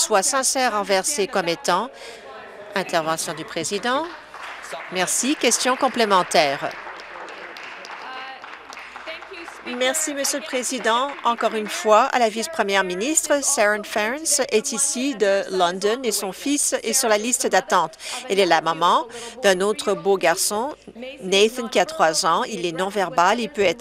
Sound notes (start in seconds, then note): 9.5 applause